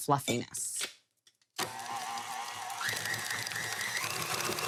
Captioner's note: mixer whirring